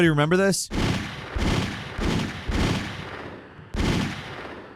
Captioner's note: gun firing